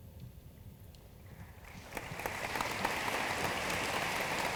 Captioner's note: room applauds